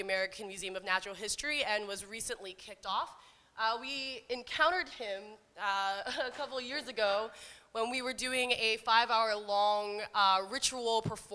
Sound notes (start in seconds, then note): 5.4 chuckles